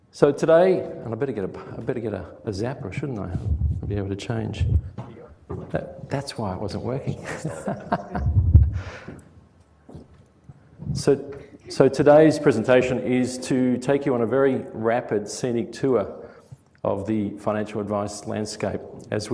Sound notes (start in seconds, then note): 7.0 laughter